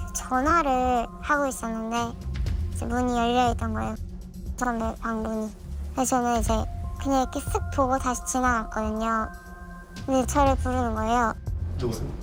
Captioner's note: voiceover